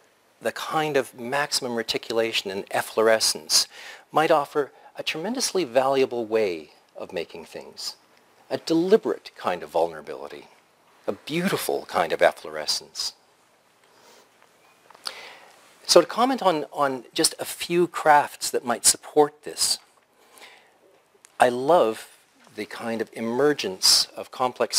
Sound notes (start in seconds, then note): 13.3 pause